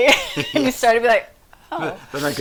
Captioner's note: chuckles